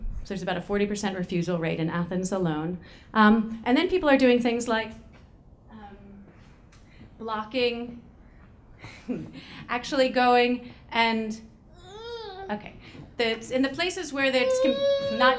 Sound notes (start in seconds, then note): 11.7 baby crying; 14.2 baby crying